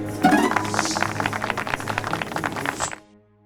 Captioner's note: applause